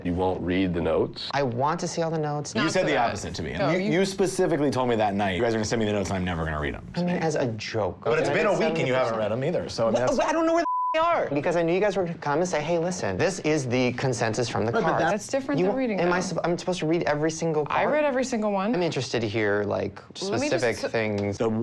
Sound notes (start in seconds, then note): 10.6 beep